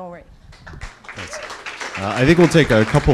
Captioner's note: applause